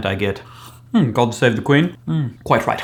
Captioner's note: imitation of a British Accent